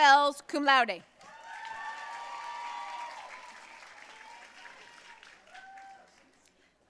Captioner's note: audience cheering and applauding